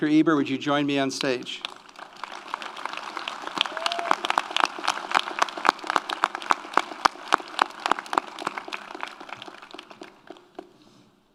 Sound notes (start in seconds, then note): 1.5 audience applauds; 1.6 audience cheers